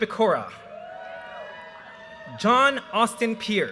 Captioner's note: audience cheers and applause